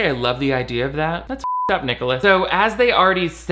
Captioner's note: beep